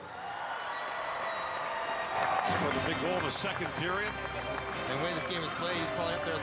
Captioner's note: cheering and Applause